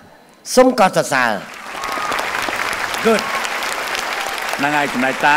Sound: applause

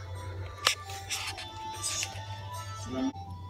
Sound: very very low voice

